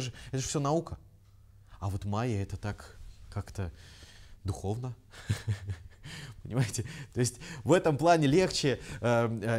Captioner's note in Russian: смеется